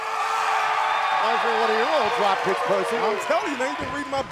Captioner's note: cheers and applause